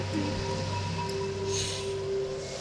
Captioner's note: inhales oxygen